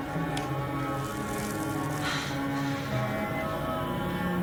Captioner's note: breathing heavily